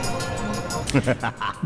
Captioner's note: laughter